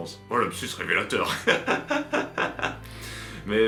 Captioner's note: laughs